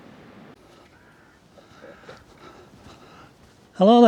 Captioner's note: birds chirping; panting